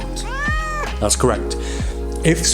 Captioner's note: crying